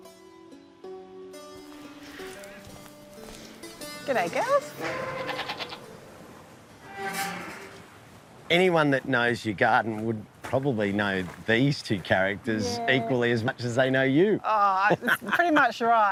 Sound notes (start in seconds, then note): 4.8 goats bleat; 14.8 laughs